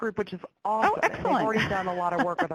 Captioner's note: laughs